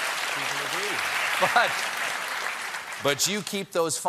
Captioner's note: cheers and applause